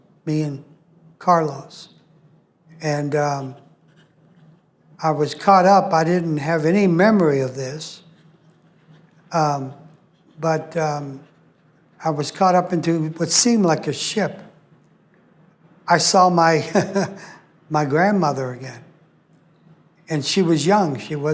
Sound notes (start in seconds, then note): 16.6 laughs